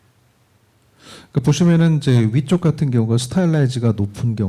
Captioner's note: speaking korean